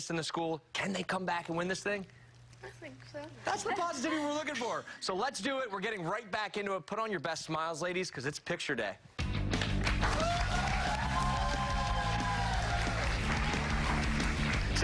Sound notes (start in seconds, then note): 9.5 cheers and applause